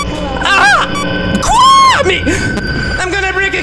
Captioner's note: inhale